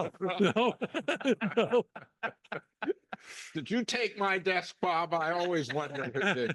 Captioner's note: laugh